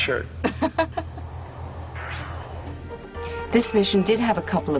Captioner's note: laughing